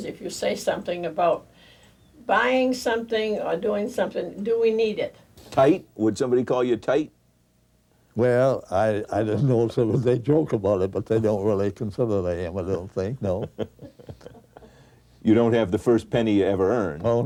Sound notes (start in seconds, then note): 12.7 Don chuckles